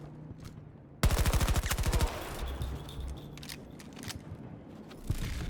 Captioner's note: gunshots exploding